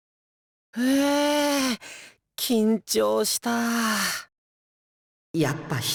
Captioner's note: weary sigh